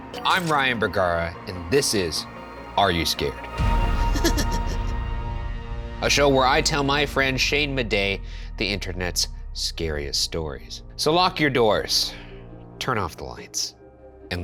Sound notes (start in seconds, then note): 4.1 disembodied cackling